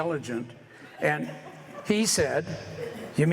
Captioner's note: light laughter